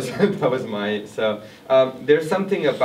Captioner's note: laughs